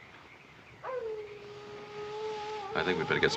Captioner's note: coyote howls